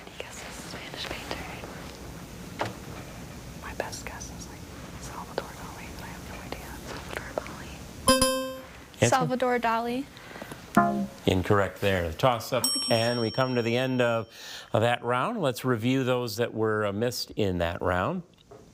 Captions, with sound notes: - Any guesses, Spanish painter? - My best guess is, like, Salvador Dali, but I have no idea. - Salvador Dali? (timer chiming) - Answer? - Salvador Dali? (text buzzing) - Incorrect there. The toss-up, (bell dinging) and we come to the end of that round. Let's review those that were missed in that round.